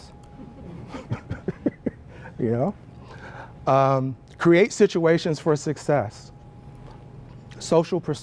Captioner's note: laugh